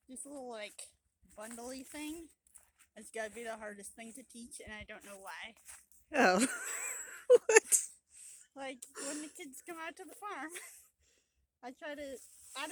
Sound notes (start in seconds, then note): 6.3 laughter